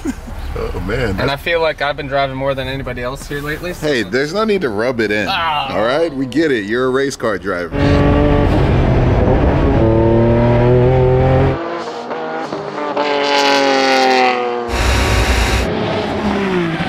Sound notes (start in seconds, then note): 0.0 laughs; 7.7 car engine revving; 11.6 car speeding down track